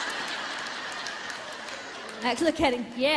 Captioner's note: laughing